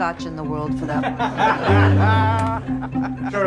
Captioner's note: laughter